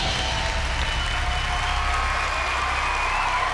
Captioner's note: cheering and applause